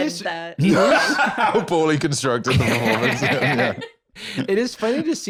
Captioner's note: laughs